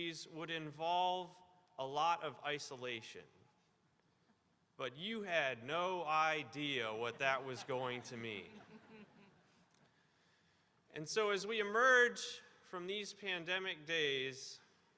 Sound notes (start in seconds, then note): 7.1 audience laughing